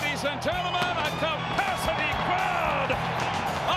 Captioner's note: crowd cheering